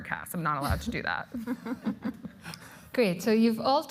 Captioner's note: laughter